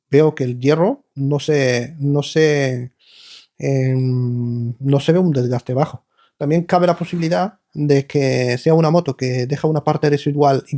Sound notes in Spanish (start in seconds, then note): 3.1 resoplido